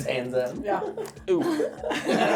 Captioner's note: laughing